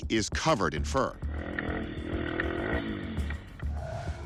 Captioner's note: bike engine revving